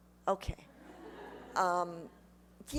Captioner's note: laughter